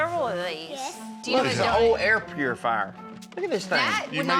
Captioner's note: none